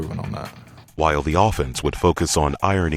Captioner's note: voiceover